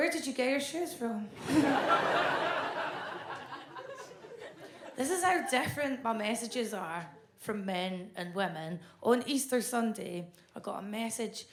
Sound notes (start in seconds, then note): 1.4 audience laughs